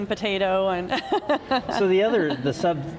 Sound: chuckling

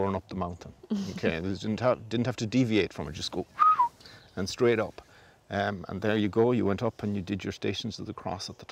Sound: whistles

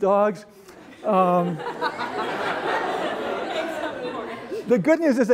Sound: laughter

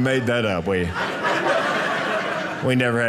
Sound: audience laughing

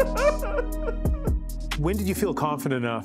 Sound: laughter

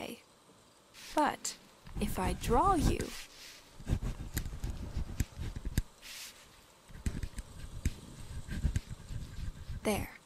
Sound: quill scratching parchment

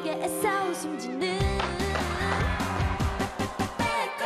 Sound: screams and Applause; fireworks

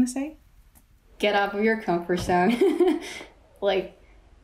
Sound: laughs

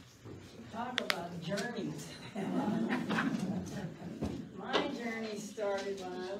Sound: laughs

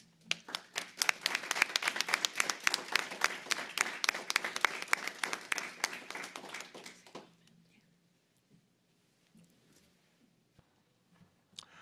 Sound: applause

